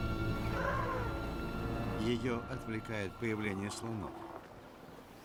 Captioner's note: elephants trumpeting